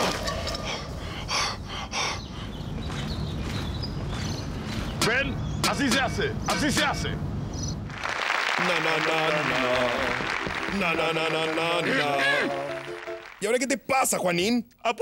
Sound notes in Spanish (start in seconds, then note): 0.6 jadeando; 8.8 Ambos tarareando